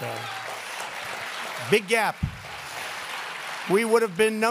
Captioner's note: applause